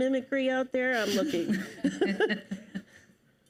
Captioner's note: panelists laugh